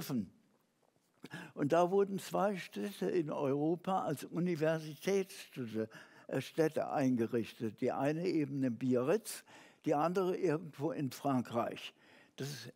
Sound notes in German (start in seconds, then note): none